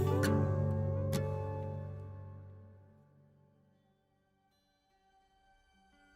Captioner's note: none